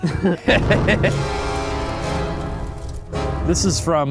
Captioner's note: men laughing; fire crackling; dramatic music